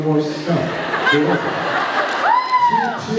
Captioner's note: laughs